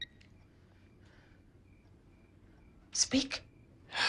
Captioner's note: crickets chirping